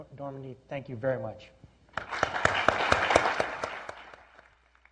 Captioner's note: applause